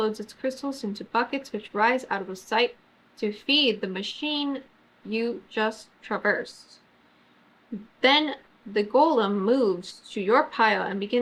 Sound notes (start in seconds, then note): none